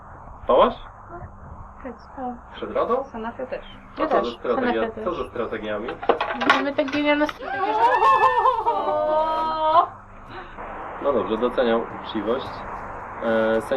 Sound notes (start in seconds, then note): 7.3 sounds of disapproval